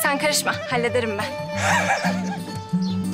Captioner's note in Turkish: Gülme sesi